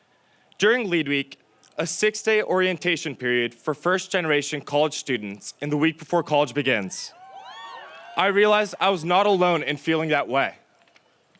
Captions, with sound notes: During LEAD Week, a six-day orientation period for first generation college students, in the week before college begins (audience cheers), I realized I was not alone in feeling that way.